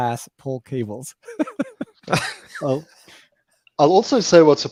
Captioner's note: laughter